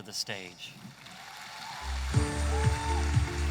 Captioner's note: audience applauding; energetic music